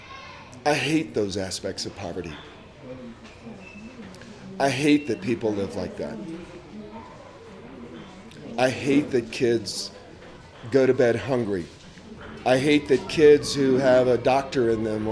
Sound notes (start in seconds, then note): none